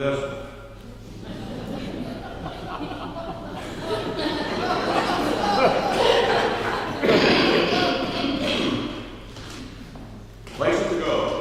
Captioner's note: laughing